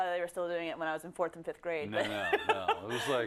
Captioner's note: laugh